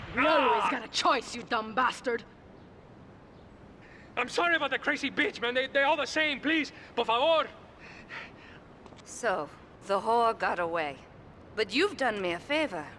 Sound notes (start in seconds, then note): 0.0 gun firing; 7.1 speaking in foreign language